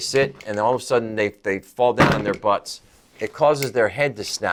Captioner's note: table knocks